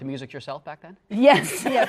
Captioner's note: laughter